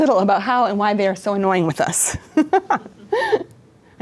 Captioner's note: laughs